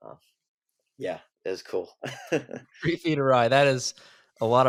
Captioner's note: laughs